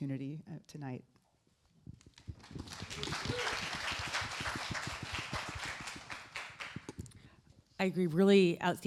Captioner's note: applause